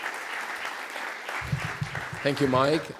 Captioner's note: applause